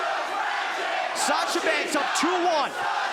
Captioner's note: crowd cheering